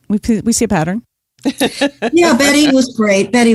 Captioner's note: laughs